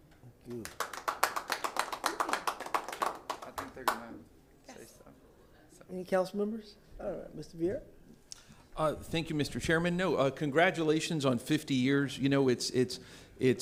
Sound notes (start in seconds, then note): 3.6 applause